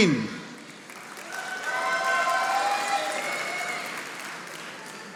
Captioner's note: audience applauding